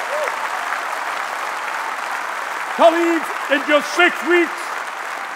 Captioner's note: applause